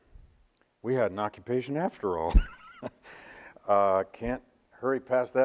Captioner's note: laughs